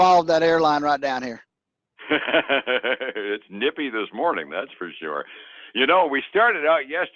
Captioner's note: laughs